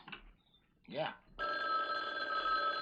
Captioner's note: telephone rings